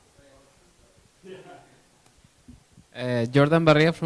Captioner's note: chuckles